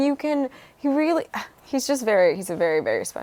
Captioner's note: sighs